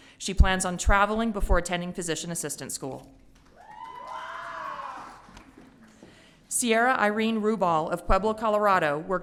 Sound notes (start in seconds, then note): 3.5 audience cheering